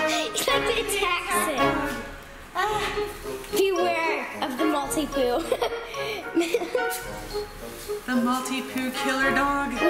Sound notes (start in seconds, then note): 5.4 laughter